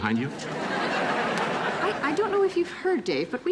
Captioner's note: audience laughing